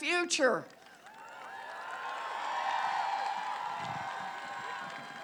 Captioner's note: applause